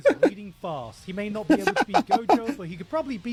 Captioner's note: laughing